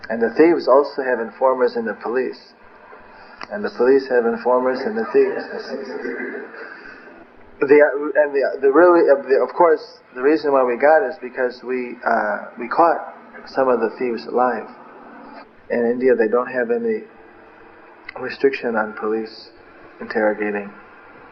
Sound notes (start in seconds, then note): 6.8 laughter